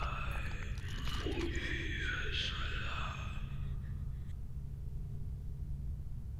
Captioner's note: creature speaking foreign language